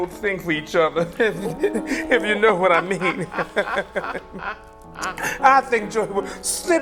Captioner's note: laughter